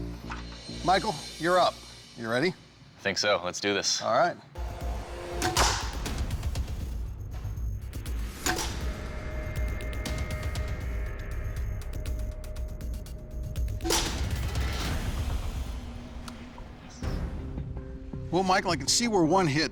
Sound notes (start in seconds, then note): 5.4 thudding; 8.3 thudding